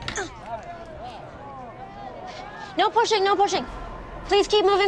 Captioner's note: grunts